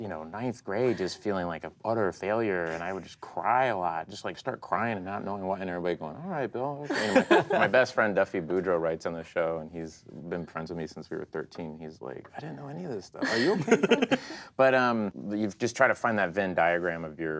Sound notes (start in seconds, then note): 6.9 laughing; 13.2 laughing